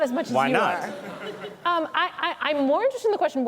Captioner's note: laughter